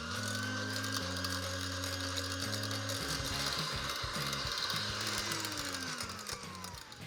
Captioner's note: motor runs faster